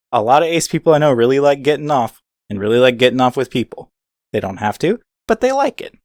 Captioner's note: none